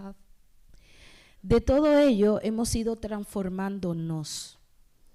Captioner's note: speaking spanish